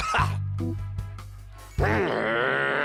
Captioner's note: growls